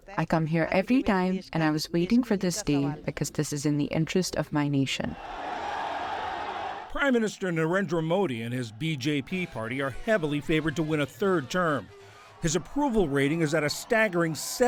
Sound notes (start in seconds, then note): 7.3 voice-over